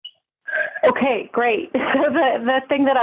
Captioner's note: laughs